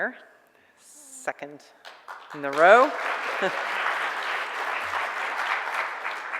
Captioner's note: audience applause